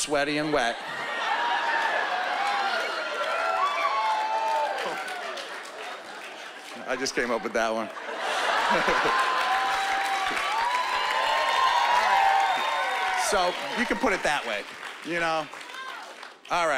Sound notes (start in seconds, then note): 2.5 whooping; 7.7 laughter; 8.7 cheering and applause